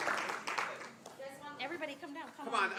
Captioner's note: applause